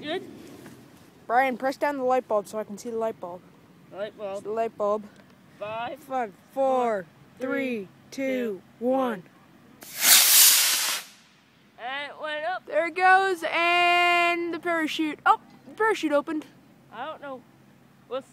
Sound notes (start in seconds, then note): 9.8 rocket launches